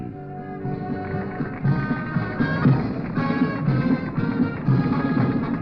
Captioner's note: applause